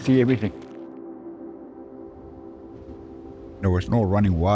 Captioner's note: wind blowing